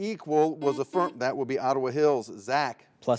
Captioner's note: buzzer beeps